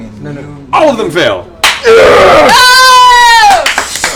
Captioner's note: cheering